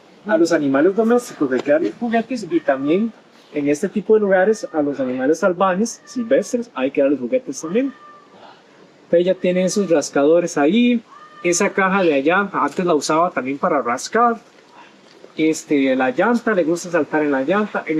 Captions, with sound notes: [In Spanish]: We should give pets toys and also In these kinds of places, [In Spanish]: wild animals also need to be given toys. [In Spanish]: She has her scratching posts there. [In Spanish]: That box over there, she used to use it for scratching too. [In Spanish]: On the tire, she likes to jump on the tire.